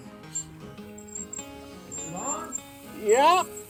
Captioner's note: wheel squeaks